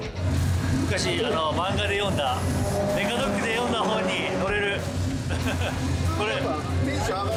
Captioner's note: car